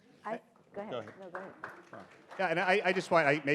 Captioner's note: audience applauds